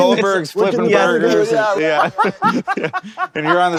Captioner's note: laughing